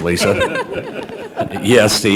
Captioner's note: laughter